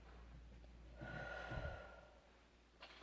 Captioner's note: breaths in; breaths out; breaths in